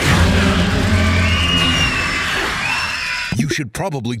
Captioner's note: brood mother screeches